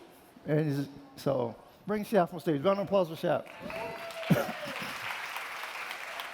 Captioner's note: applause